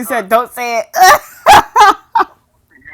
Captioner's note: laughter